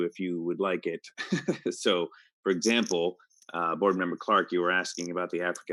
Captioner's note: chuckles